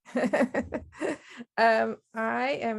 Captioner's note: laughs